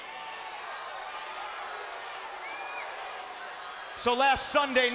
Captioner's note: crowd shouts and cheers